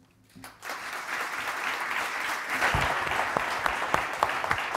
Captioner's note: audience applauding